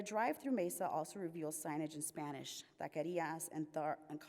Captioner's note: says word in Spanish